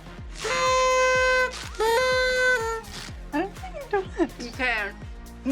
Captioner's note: party horns honking